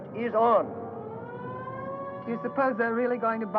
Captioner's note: sirens blaring